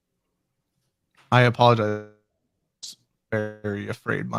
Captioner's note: audio glitches